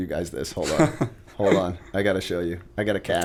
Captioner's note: chuckle